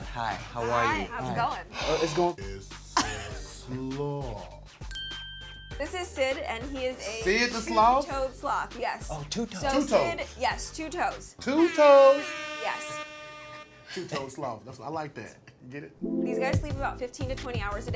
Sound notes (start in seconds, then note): 1.7 gasps; 3.3 bell dings; 11.5 buzzer sounds